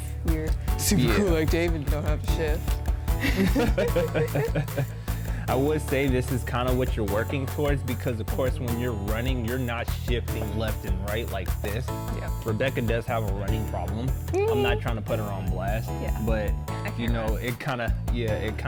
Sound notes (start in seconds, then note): 3.2 both laugh